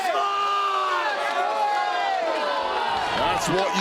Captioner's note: audience chattering